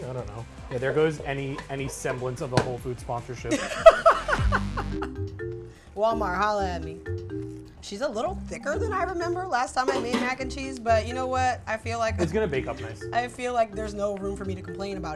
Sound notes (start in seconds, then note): 3.5 laughs; 9.7 pots clanging